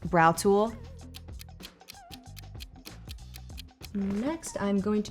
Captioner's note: timer ticking